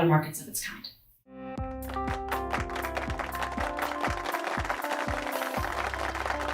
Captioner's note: light instrumental music; applause